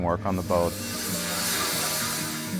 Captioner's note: circular saw buzzes